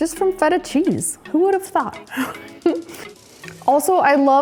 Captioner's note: laughs